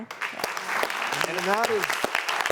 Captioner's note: audience applauds